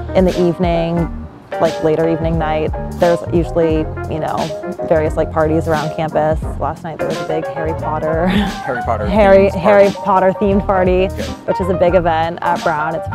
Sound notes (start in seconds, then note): 8.1 laughs